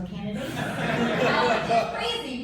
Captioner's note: laughter